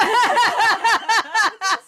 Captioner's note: laughter